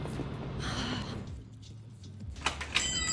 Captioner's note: sighs; door chimes